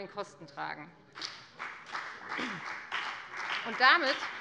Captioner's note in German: Beifall bei der FDP